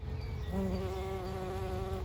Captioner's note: bee buzzing and cow bells